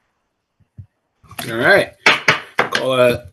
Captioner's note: gavel bangs